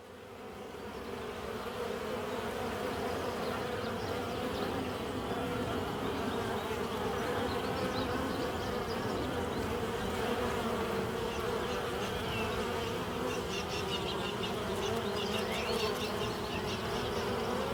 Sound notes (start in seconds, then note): 2.0 bees buzzing, birds chirping